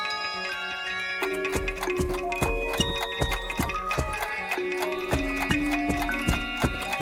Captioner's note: clock ticking; footsteps resume plodding